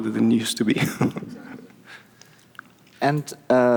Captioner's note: chuckles